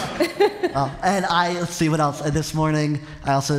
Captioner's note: laughter